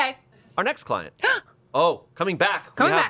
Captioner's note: gasps